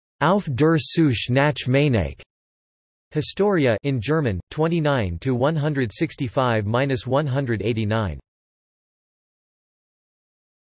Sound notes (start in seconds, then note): 4.6 in German